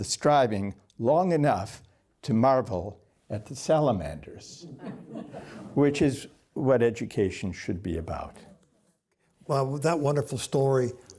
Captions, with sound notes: striving long enough to marvel at the salamanders, [LAUGHTER] which is what education should be about. Well, with that wonderful story,